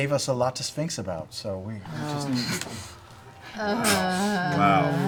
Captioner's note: groaning